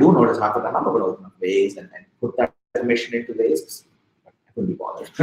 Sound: speaking softly

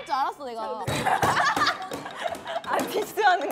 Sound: laughing

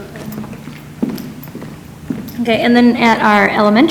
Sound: foot steps approaching

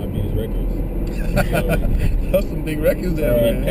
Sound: laugh

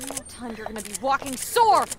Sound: panicked breathing

